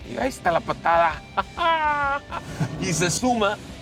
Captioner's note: exclamation of excitement